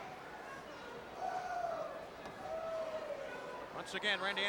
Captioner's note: crowd chattering